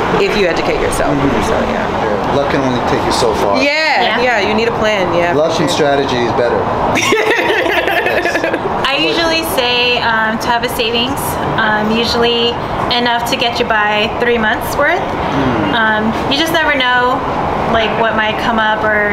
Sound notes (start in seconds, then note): 6.9 women laughing